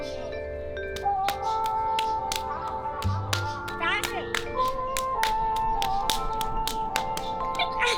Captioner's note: sound of little girls playing a clapping game